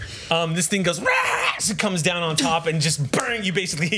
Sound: monster sounds

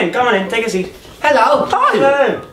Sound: everyone saying hi

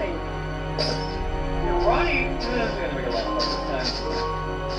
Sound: mutters

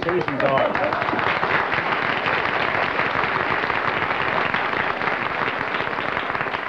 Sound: applause

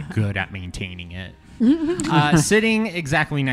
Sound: laugh

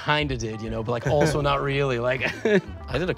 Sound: chuckles

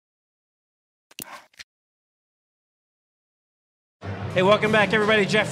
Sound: mouse click and drag

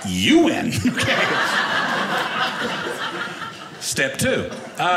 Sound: audience laughing

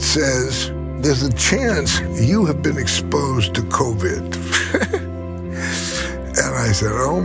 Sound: laughs

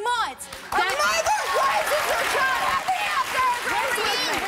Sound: audience claps

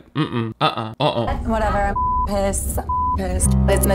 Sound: beep

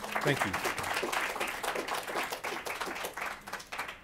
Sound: applause

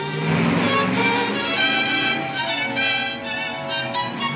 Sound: suspenseful music; engine roaring

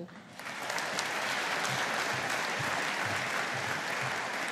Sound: audience applauding

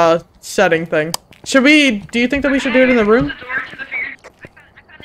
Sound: over Radio; over Radio

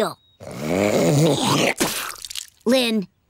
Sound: spitting

